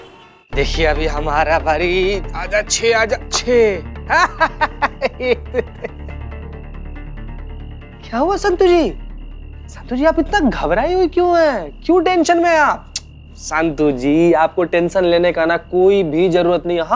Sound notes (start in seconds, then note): 4.0 laughs